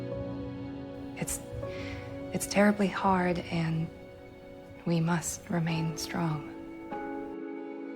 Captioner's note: voiceover